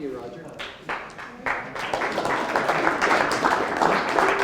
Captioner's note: applause